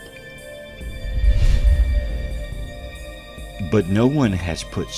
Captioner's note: air whooshing